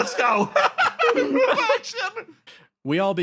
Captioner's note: laughs